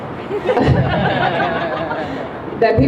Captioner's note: crowd laughs